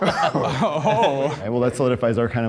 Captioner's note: group laughs